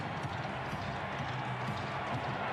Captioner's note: crowd cheering